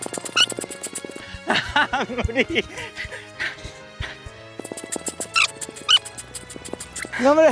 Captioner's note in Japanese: 笑い